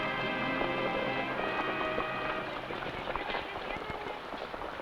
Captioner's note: horse hooves pattering